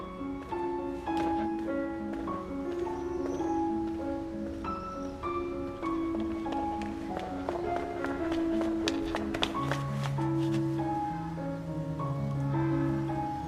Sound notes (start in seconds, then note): 5.7 footsteps approaching